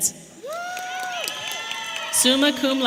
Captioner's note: audience applauding and cheering